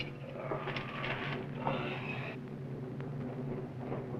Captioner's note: suspenseful orchestral music; both groaning